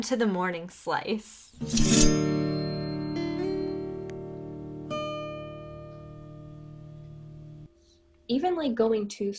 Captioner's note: slice sound effect